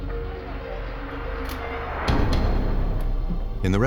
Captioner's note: police radio chatter